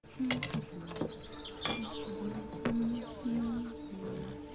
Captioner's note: humming